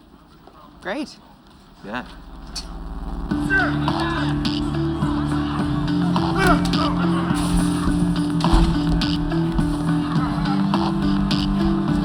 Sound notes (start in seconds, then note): 3.3 grunting, cheering